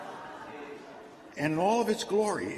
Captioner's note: laughter